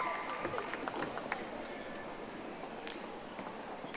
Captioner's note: audience applauding